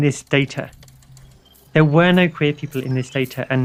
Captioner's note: sounds of computers whirring and clicking, robotic sounds